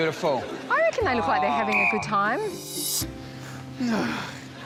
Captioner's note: whistle blows; grunts